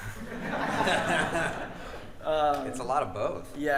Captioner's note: audience and band laughs